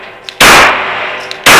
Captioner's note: pew